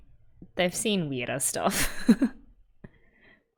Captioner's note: laughs